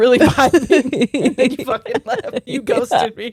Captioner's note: both laughing